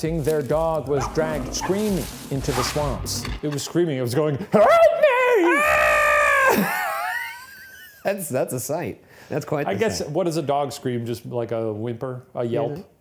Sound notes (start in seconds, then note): 6.1 imitating screaming; 6.3 both laughing